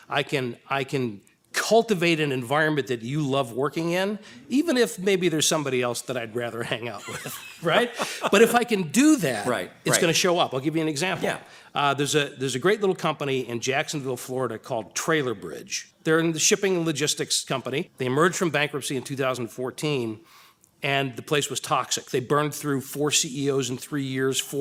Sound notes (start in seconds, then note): 6.6 laughs